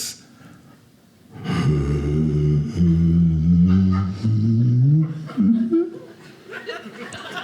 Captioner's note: humming; audience laughing